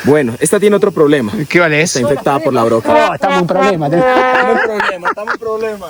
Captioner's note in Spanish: risas